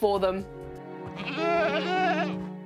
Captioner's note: goat bleats